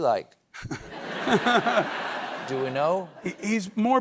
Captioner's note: laughter